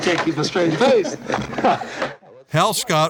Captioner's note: laughing